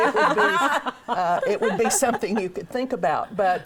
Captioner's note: laughing